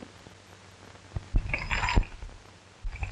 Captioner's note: jingling